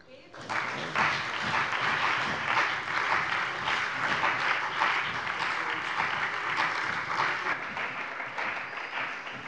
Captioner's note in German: Beifall bei der CDU und dem BÜNDNIS 90/DIE GRÜNEN